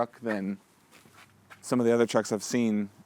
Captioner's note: none